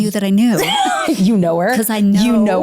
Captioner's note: laughs